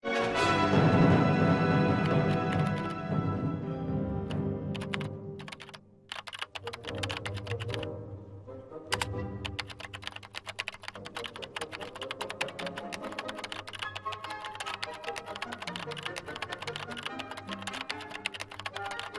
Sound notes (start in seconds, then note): 10.9 lively dramatic music; 12.3 keyboard clattering